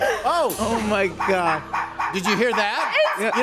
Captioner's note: puppies barking